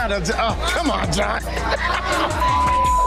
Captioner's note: laughs; beep